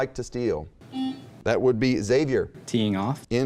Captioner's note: buzzing